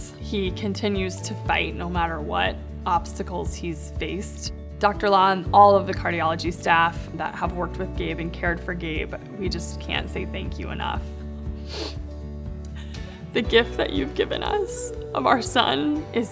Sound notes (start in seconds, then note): 11.6 sniffles